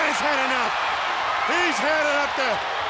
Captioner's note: audience cheers